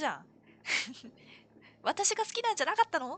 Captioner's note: laughs